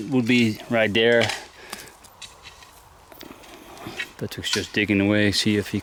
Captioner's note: shovel clanging